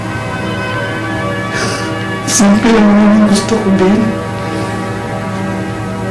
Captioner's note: Joey sniffles